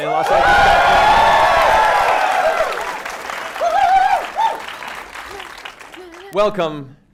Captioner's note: cheering